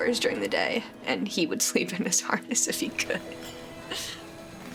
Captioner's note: chuckling loudly